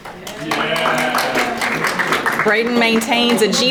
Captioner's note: audience applauding